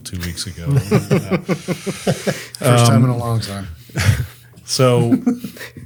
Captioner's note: laughs